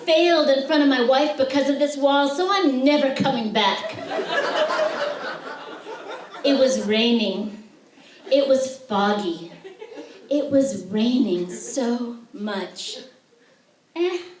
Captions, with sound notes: I failed in front of my wife because of this wall, so I'm never coming back. [laughter] It was raining. It was foggy. It was raining so much.